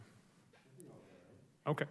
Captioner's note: mumbles